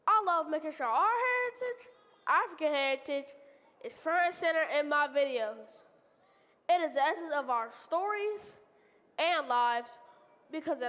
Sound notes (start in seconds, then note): none